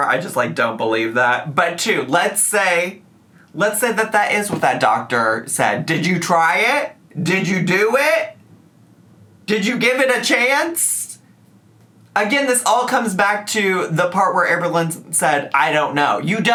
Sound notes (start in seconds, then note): none